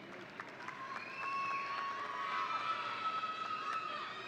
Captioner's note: audience cheering